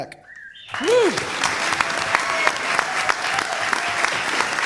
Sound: applause

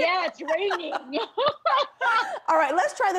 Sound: laughter

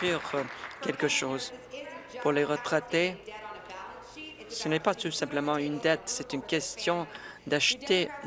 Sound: applause

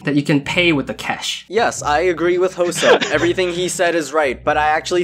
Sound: laughs

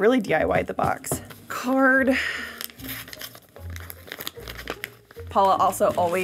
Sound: paper rustling

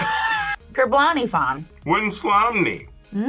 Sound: both laugh; speaks Simlish

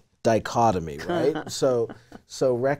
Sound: laughing

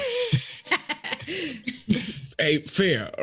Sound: group laughs

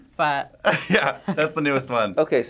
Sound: laughs

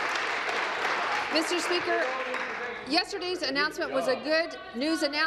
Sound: applause

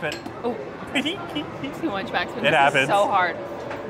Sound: laughs

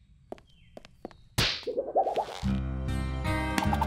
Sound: kick thuds; epic music

